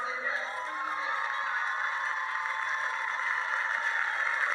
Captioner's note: cheering over speech